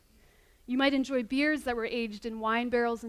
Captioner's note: none